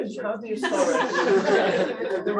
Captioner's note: laughter